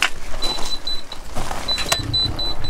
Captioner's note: beeps